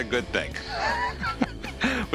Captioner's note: laughs